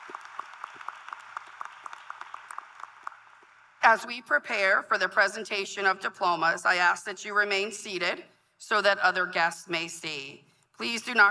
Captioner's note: applause